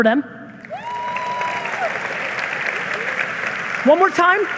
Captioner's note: audience applauding